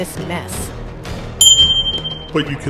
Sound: loud chime

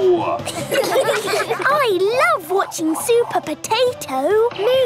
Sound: children laughing

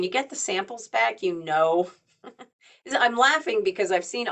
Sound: chuckles

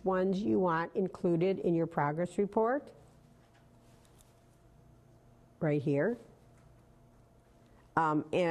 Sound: pause

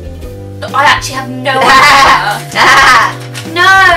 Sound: laughing

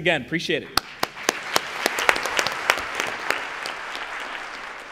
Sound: applause

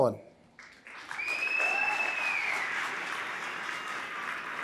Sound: applause

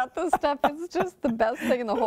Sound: laughter

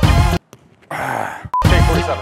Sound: sighhh

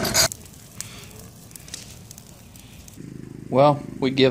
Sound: fire crackling

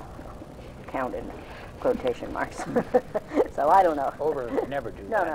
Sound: laughs

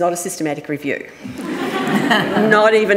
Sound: audience laughing

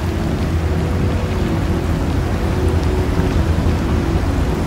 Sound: water splashing

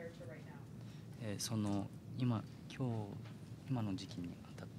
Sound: speaking Japanese

